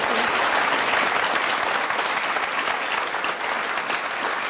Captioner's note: applause